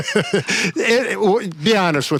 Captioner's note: laugh